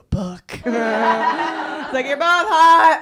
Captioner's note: laughter